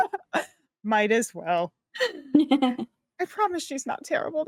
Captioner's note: cast members laughing